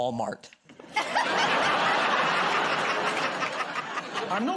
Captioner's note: laughter